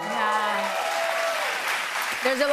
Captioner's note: cheers and applause